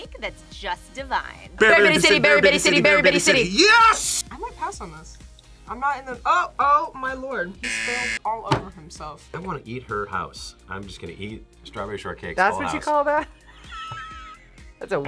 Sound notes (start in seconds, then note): 7.6 buzzer; 13.2 both laugh